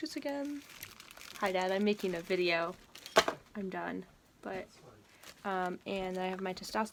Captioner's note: drops bag